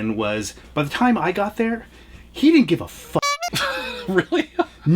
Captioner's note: horn honking; laughs